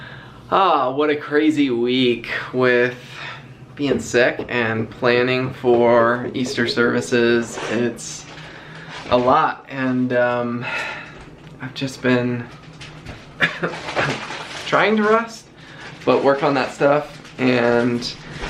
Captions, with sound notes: What a crazy week with being sick and planning for Easter services, it's a lot and... I've just been... [coughing] Trying to rest but work on that stuff and...